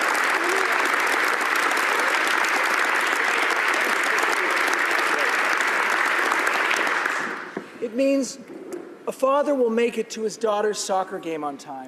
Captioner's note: applause